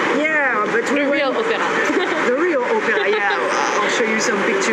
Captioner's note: laugh